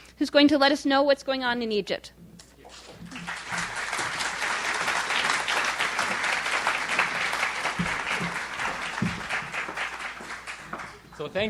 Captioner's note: audience aplauds